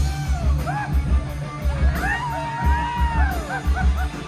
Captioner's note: guitar solo; crowd screams